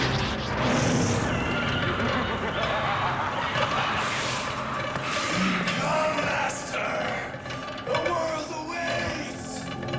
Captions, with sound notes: (laughs maniacally) Come, Master! The world awaits!